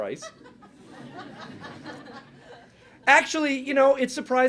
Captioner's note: laughing